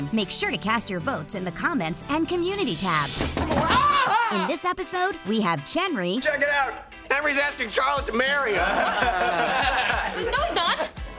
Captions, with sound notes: Make sure to cast your votes in the comments and community tab! [screaming] In this episode, we have Chenry... Check it out, Henry's asking Charlotte to marry him! [laughing] No he's not!